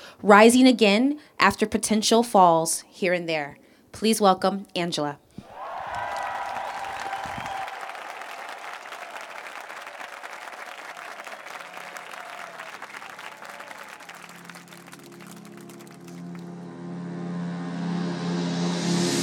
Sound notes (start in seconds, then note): 7.7 applause